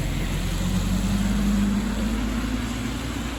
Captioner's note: car passing